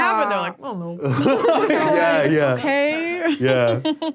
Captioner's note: laughs